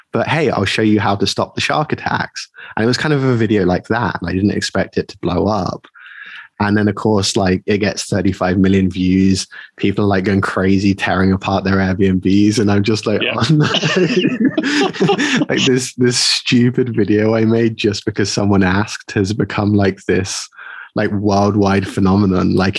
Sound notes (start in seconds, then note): 13.0 both laughing